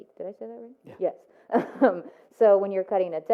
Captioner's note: laughs